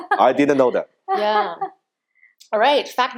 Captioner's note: laughing